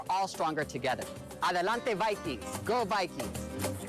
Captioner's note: speaks in foreign language; energetic Latin music